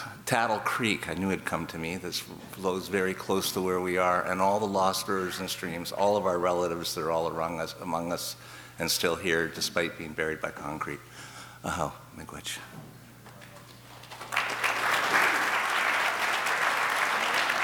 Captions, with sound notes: Tattle Creek, I knew it'd come to me, this flows very close to where we are and all the lost rivers and streams, all of our relatives that are all among us and still here despite being buried by concrete. (speaking in foreign language) (audience applause)